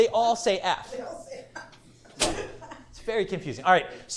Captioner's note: laughs